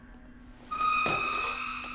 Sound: high-pitched squeal

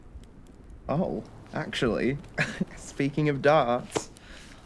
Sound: chuckles

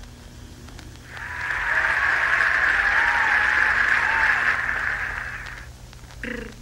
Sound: Crowd Cheers for Zak

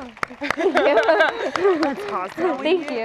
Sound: applause; laughter

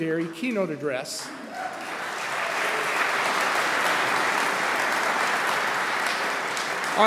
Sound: applause

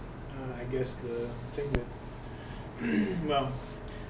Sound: clears throat

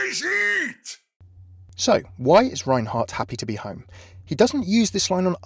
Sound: voiceover

